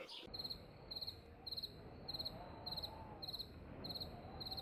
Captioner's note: crickets chirping